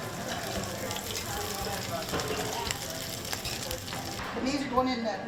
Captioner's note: fritters sizzling in the oil